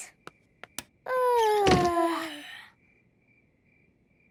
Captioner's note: light clicks; both yawning